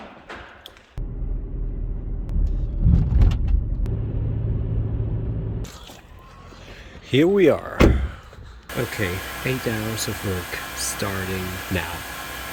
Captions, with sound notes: (car humming) Here we are. Okay, eight hours of work, starting now.